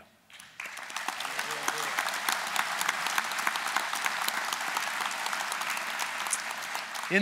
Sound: applause

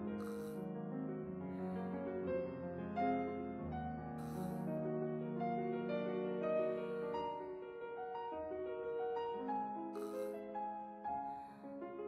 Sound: sniffs

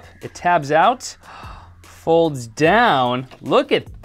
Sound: gasps

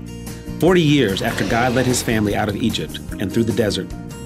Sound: box dragging

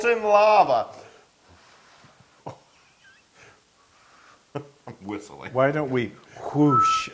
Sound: laugh

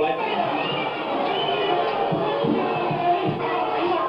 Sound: crowd noise

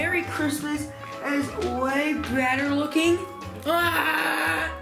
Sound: screaming

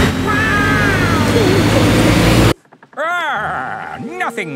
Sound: laughing

